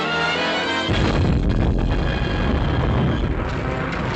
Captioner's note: explosion